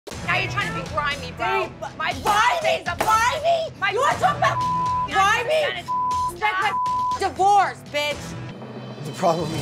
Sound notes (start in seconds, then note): 3.2 hand slamming; 5.8 beep